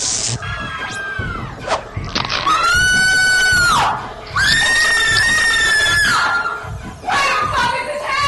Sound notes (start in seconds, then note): 0.1 electric crackle, whip, crunch; 0.1 everyone screams, Jenna screams; 4.1 Jenna screams!